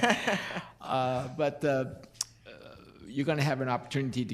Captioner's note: laughing